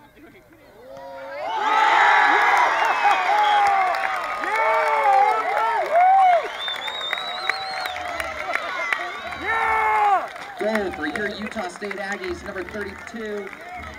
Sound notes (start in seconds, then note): 0.6 crowd Cheering